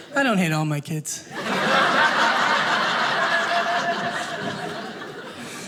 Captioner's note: audience laughing